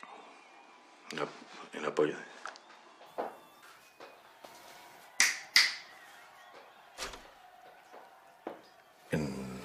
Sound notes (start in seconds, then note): 1.2 whispering; 5.1 clicks his fingers